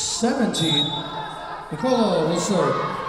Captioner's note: whistle blowing